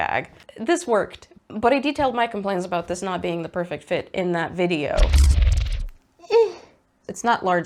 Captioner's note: sci-fi swooshy noise